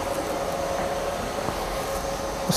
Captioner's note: stepping sound